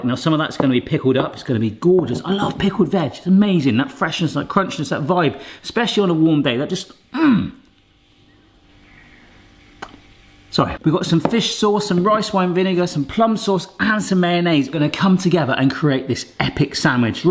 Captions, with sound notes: now some of that is gonna be pickled up, it's gonna be gorgeous! I love pickled veg, it's amazing! That freshness, that crunchiness, that vibe. Especially, on a warm day. There are just, mm! (lip smacks) It's okay. We've got some fish sauce, some rice wine vinegar, some plum sauce, and some mayonnaise. They're gonna come together and create this epic sandwich.